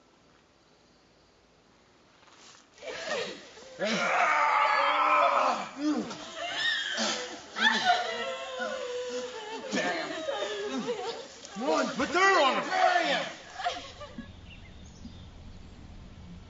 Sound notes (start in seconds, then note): 3.9 yelling; 7.7 women crying